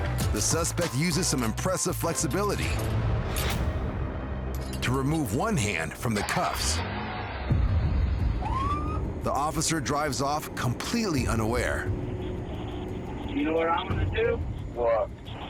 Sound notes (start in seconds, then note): 3.0 clinks; 7.2 car engine revs; 8.2 siren wails